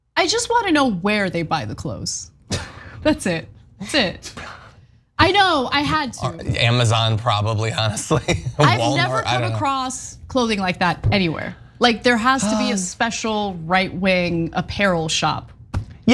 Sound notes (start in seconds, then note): 2.7 laugh; 7.8 laugh